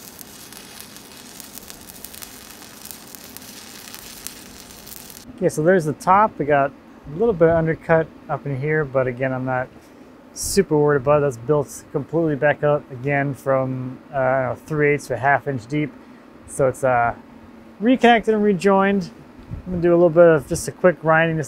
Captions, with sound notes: (welder sputtering) Okay, so there's the top, we got a little bit undercut up in here, but again, I'm not super worried about it. That's built completely back up again from three-eighths to a half-inch deep. So it's reconnect and rejoined. I'm gonna do a little bit of just a quick grinding